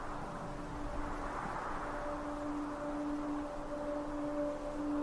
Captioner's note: ocean sounds